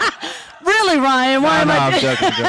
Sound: laughing

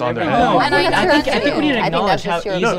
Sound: group arguing over one another

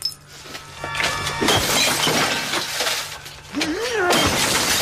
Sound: glass shattering

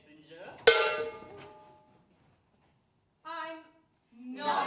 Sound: metal bangs

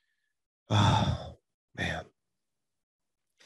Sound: sighs

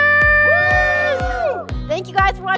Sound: all cheering

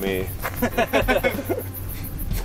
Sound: laughing

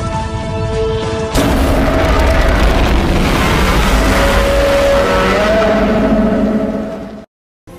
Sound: Godzilla Minus One roars

